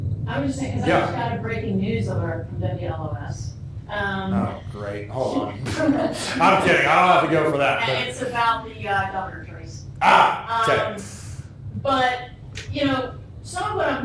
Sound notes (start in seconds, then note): 5.3 laughter